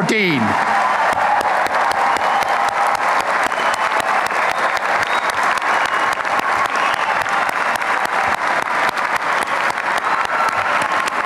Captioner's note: applause and cheering